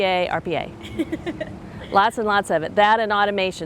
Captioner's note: laughing